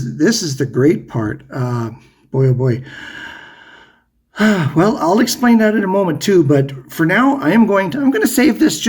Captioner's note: huffs